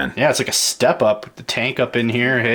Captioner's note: voiceover